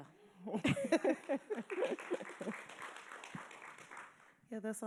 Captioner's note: laughing; audience applauding